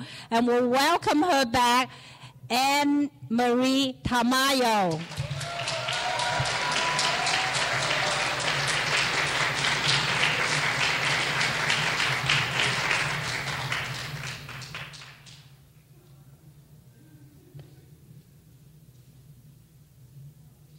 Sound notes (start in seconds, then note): 4.9 clapping; 5.0 cheering